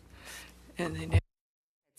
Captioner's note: speaking French